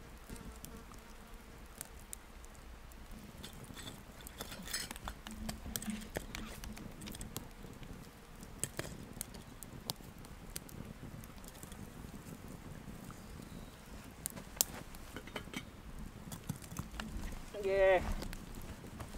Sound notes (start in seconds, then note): 13.0 fire crackling